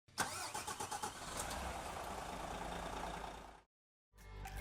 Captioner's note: engine cranks